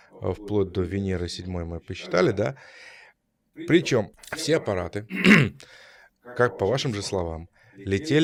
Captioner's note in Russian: откашливается